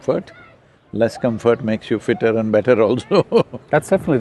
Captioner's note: laughs